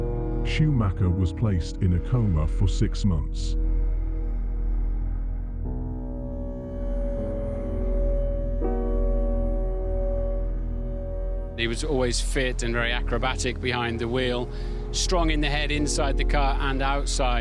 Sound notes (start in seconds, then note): 5.8 breath huffing; 5.8 ominous music